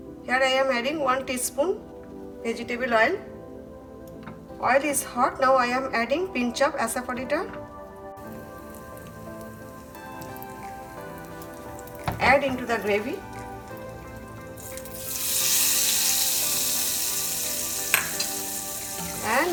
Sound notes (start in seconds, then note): 8.5 soft sizzling; 17.9 pan hitting counter